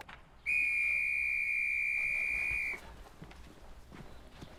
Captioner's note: whistle thrilling